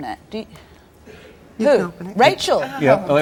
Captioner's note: none